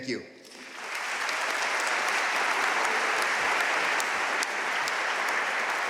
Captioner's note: audience cheering and applauding